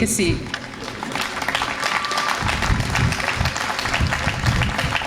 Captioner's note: audience applause